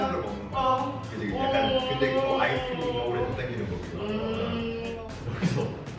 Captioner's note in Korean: 절규한다